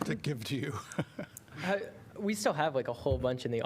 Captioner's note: laughter